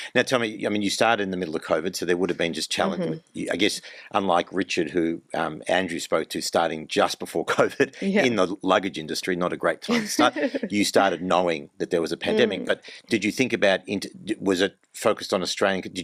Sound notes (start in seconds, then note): 7.6 laughs; 9.9 laughs